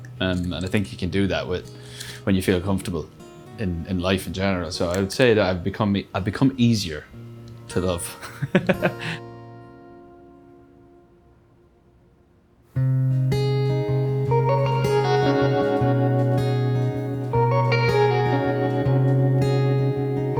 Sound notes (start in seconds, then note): 8.1 laughs; 12.7 guitar melody